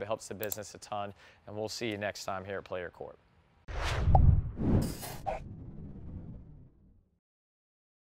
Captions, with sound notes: It helps the business a ton and we'll see you next time here at Play Your Court. (logo whooshing)